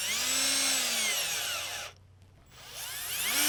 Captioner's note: drilling